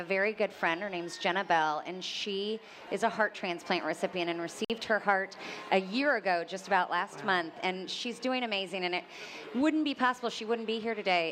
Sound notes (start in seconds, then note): none